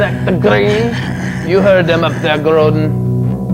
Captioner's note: Groden cackles